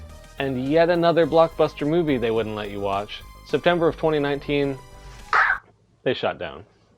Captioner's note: cutting throat noise